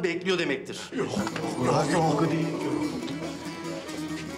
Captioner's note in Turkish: Hep Bir Ağızdan Konuşuyorlar